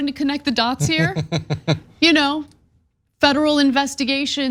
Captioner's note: laugh